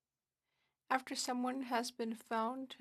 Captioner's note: speaking French